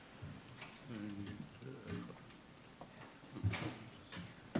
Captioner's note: man muttering